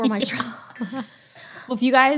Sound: both laughing

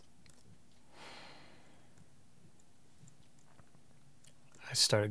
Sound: Cal sighing

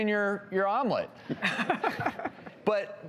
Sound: laughing

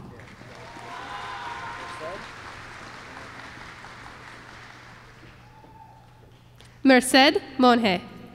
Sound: applause

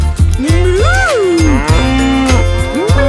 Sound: cow mooing

